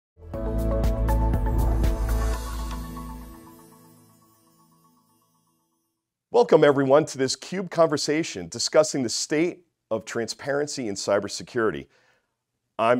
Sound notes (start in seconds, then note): 0.2 upbeat music; 3.0 chimes tinkle